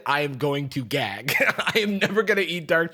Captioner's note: laughs